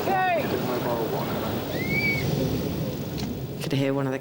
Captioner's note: crew member whistling